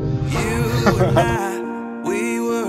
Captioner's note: laughs